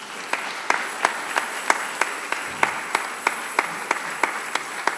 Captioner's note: congregation applauding